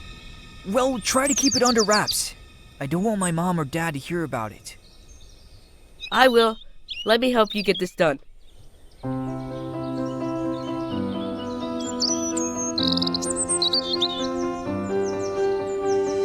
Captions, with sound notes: - Well, try to keep it under wraps. I don't want my mom or dad to hear about it. - I will. Let me help you get this done. (energetic music) (birds chirping)